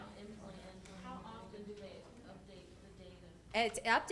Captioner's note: voiceover